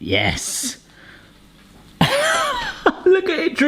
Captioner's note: soft laughing